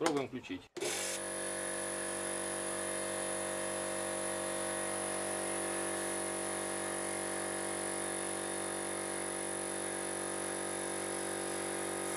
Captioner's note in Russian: слышен звук работы компрессора